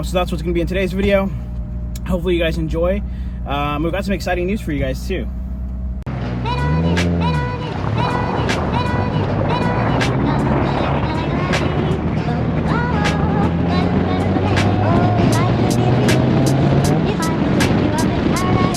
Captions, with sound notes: So that's what's gonna be in today's video. Hopefully you guys enjoy, we've got some exciting news for you guys too. (upbeat music) (car engine revving) (upbeat music continues)